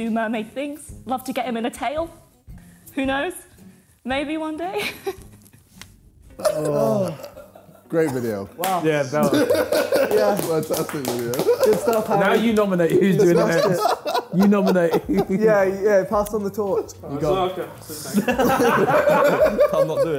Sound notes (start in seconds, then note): 7.0 chuckling; 9.2 laughing; 10.0 clapping; 18.1 laughing